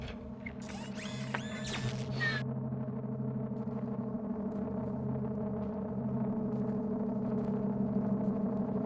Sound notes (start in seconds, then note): 0.0 mechanical neck whirring; 3.2 ominous distorted tone rising